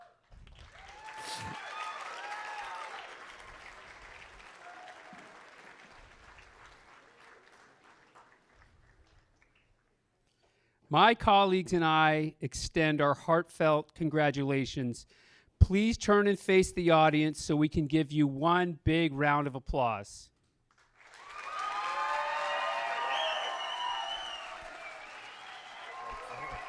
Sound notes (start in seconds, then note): 6.1 applause